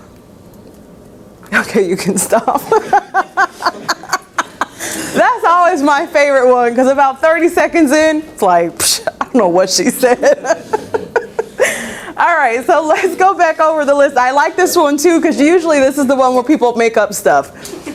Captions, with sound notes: Okay, you can stop. [Laughing] That's always my favorite one because about 30 seconds in, it's like, I don't know what she said. Alright so let’s go back over the list, I like this one too cause usually this is the one where people make up stuff.